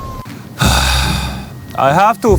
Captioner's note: sighs